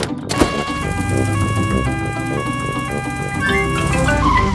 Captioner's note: siren wails